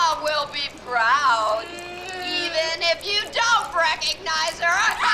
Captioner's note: child screaming